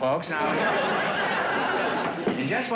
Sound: laughter

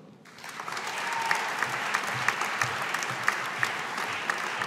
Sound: audience applauding

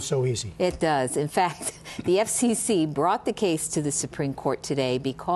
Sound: laughter

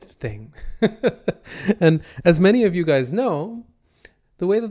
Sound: chuckles

